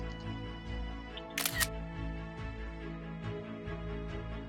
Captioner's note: camera shutter sound